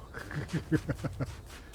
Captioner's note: laughs